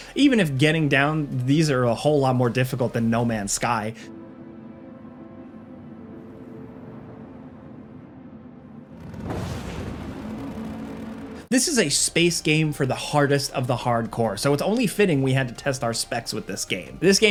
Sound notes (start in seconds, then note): 4.1 pensive music; 9.2 ship blasts